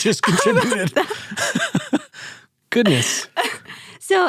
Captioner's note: laughing